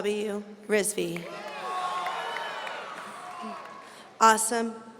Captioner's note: audience cheering